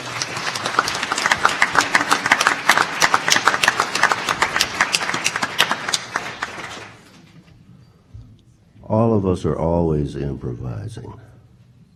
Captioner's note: applause